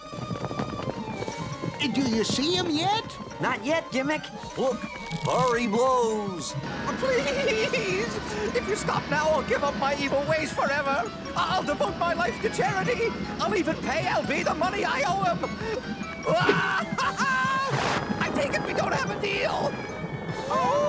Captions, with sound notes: Do you see him yet? Not yet, Gimmick. Look, thar he blows! Please! If you stop now, I'll give up my evil ways forever. I'll devote my life to charity. I'll even pay L.B. the money I owe him! (screams) I take it we don't have a deal. (howls)